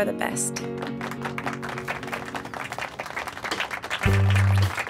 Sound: applause; calm music

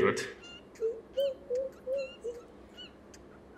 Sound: mocking

